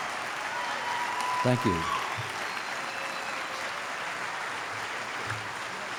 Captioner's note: applause